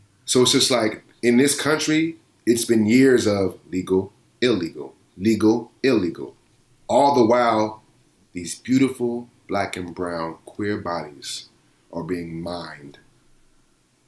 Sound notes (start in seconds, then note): none